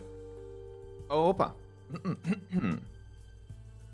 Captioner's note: clears throat